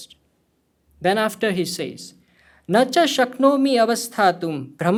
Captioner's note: speaking hindi